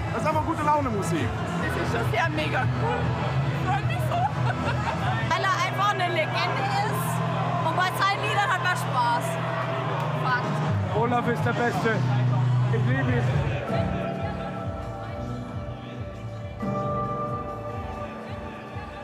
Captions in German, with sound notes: Einfach Gute-Laune-Musik. Das ist schon sehr megacool. Ich freu mich so. Weil er einfach 'ne Legende ist, und bei seinen Liedern hat man Spaß. Fakt. Olaf ist der Beste. Ich liebe ihn. (Geräuschkulisse verschwimmt langsam.)